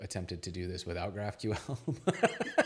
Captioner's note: laughs